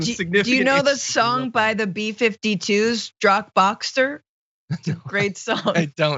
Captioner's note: laugh